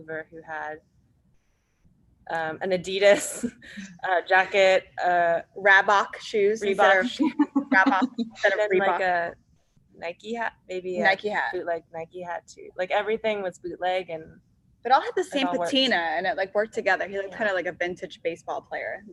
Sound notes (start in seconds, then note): 6.7 laughs